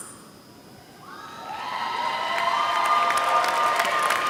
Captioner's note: applause